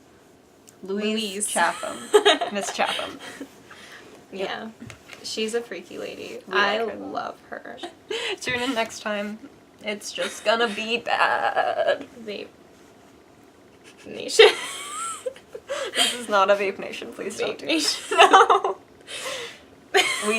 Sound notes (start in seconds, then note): 17.9 laughs